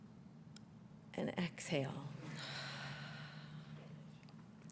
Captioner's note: exhales